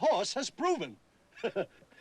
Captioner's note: chuckles; laughs